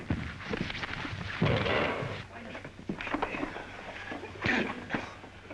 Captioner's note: scuffling